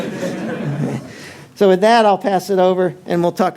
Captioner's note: audience laughter